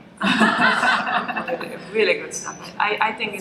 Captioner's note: laughter